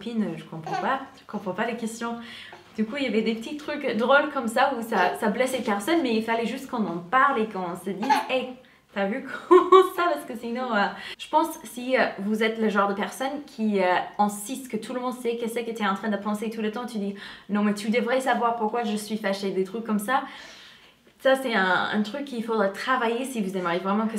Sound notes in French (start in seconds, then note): 8.0 rigole